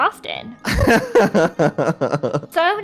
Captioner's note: laughs